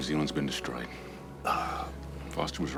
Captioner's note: moan